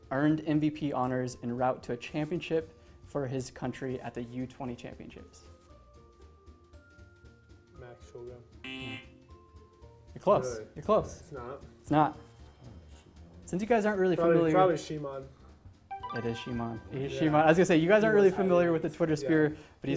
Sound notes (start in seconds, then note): 8.6 buzzer